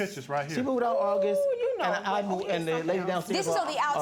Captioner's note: stuttering